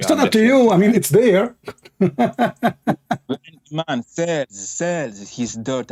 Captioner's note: Ketawa